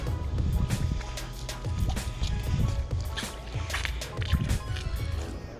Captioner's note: sound of squid spout water